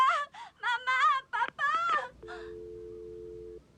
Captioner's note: click, dial tone